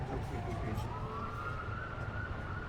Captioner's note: police sirens